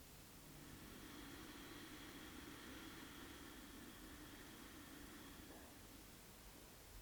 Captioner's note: long exhale